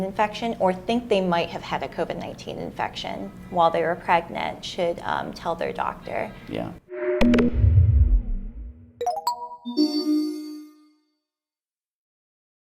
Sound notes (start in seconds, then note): 6.9 logo whooshing